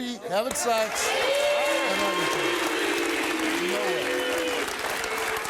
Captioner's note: audience clapping